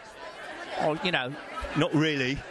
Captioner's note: British accent